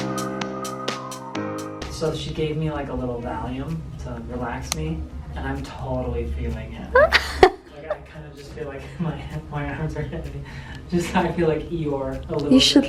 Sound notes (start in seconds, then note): 6.9 laughs